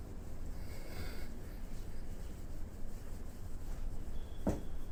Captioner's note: custodian breathes; floor squeaks; window taps